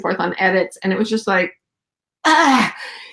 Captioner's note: groans